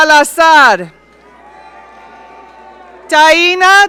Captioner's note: audience cheering